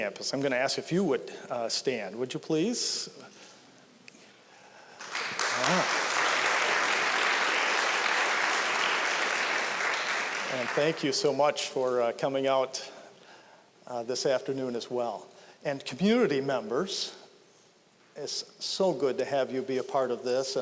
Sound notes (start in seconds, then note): 4.9 applause